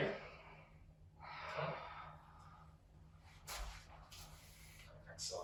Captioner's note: breathes in and out